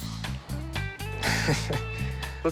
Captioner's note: chuckles